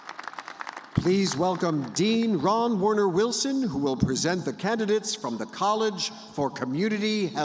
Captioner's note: applause